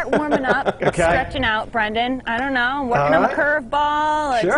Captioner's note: laughter